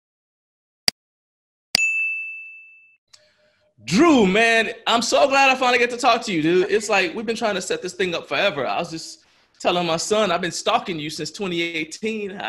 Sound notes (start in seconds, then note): 0.5 mouse click; 1.8 bell rings